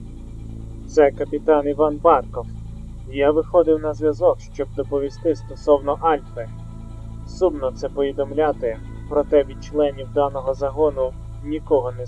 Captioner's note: radio